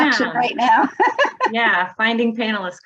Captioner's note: laughs